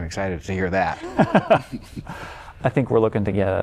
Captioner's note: laughter